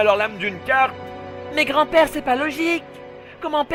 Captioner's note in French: Yu-Gi, s'exclame